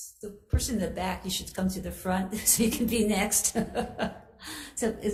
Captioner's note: laughs